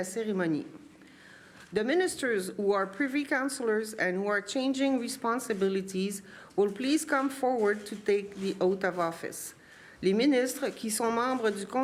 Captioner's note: speaking french